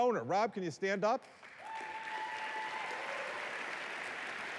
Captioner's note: applause